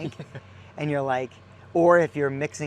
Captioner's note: laughing